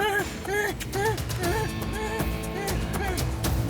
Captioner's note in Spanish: sollozos